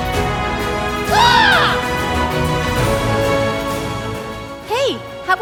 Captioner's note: Wendell squawking